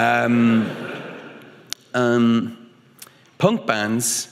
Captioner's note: audience laughing